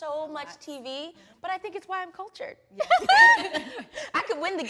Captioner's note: laughing happily